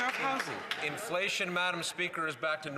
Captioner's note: some Applause